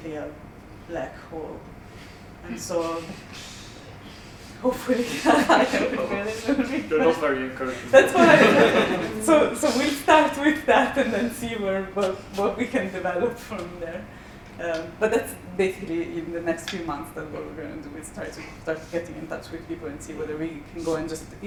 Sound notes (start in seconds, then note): 7.9 laughter